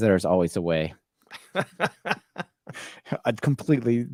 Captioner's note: laughing